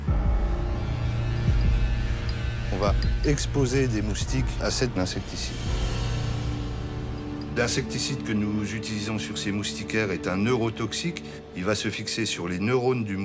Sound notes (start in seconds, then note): 0.2 eerie music; 2.9 speaks in foreign language